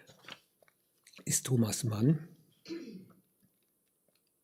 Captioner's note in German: räuspern